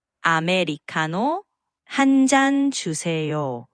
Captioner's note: speaking Korean